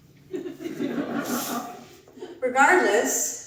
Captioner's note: audience laughs